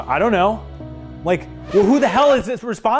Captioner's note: record scratches